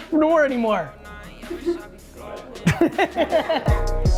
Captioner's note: laughing